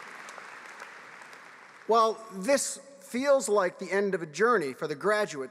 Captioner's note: applause